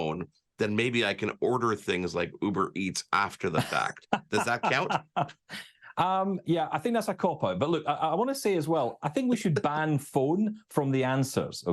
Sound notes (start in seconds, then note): 3.4 laughs